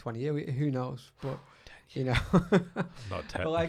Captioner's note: laughs